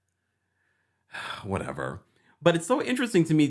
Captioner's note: sighs